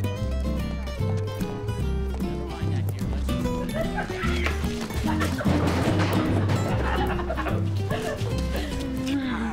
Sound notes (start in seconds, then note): 3.4 laughs